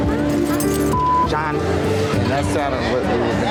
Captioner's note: beep